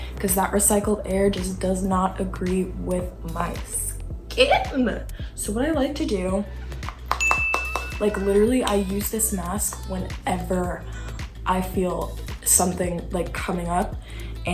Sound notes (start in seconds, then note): 6.8 taps finger; 7.2 chime